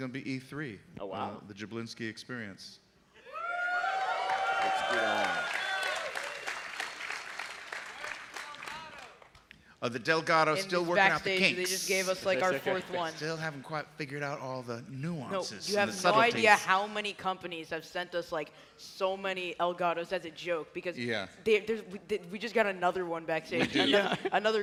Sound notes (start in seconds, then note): 9.7 cheers and applause